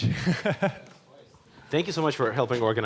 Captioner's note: laughs